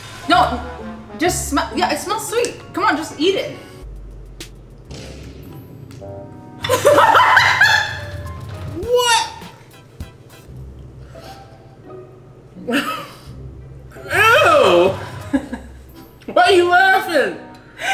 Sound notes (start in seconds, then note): 4.0 playful music; 6.6 laughing; 12.6 laughs; 15.1 laughing